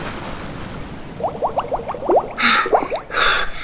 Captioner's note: bubbling